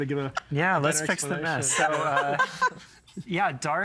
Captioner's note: laughing